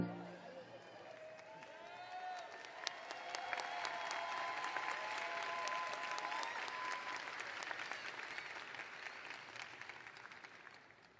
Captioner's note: cheers and applause